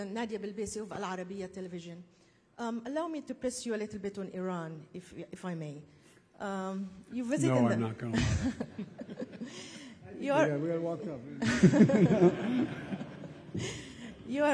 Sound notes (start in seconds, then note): 8.1 laughs; 11.2 laughter; 11.2 laughs